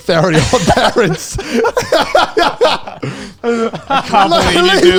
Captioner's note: everyone laughs